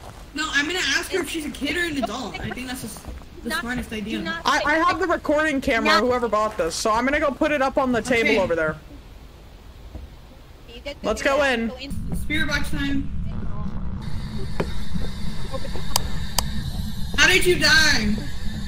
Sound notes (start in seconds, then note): 13.3 static from spirit box